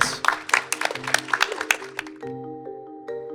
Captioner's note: everyone applauding; theme music